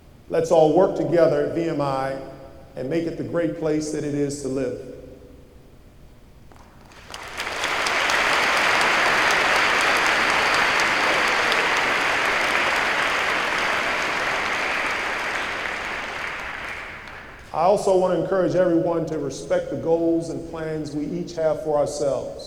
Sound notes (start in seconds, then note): 6.6 applause